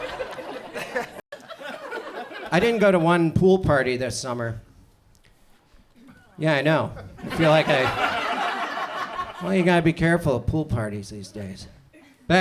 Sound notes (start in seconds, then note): 0.0 audience chuckles; 7.0 audience chuckles